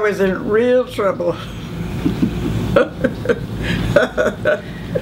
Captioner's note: laughing